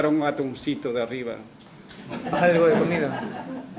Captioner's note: risas